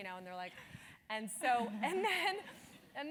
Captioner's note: laugh